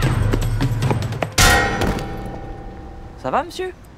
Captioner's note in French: sons jeux vidéo; bruit d'impact